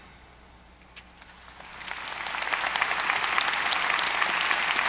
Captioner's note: audience applauding